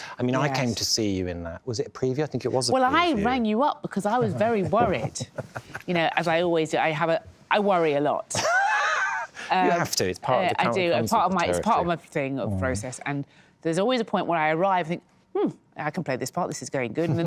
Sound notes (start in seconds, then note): 8.4 laughs